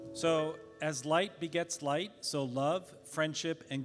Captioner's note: none